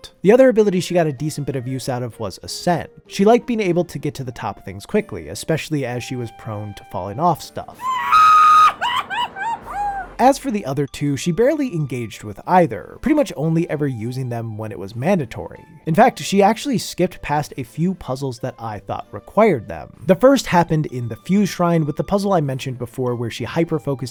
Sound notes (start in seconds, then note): 7.7 screams